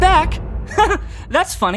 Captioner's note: chuckles